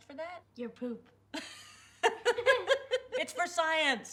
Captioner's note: laughing